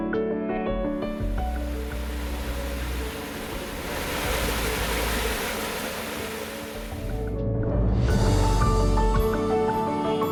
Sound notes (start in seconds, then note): 1.1 water running; 2.0 relaxing music